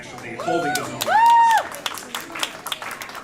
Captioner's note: cheers and applause